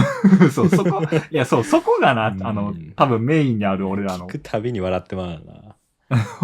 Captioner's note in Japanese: 笑い